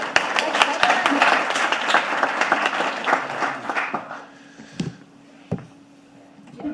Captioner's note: audience applauding